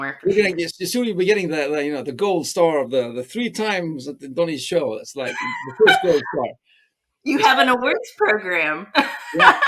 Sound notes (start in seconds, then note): 3.4 both laugh; 7.8 laughs